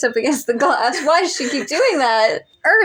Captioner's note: wheeze Laugh